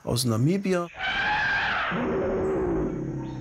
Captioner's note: elephant horns, lion screech